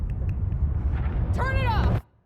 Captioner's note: tongue clicking